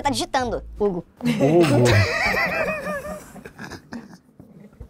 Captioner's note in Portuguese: risadas